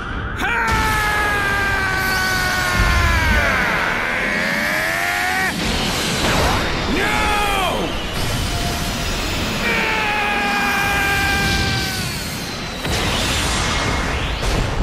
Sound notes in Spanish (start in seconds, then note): 2.9 Gritos; 9.6 Grita dolorosamente